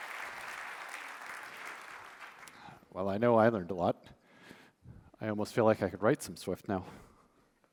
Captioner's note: applause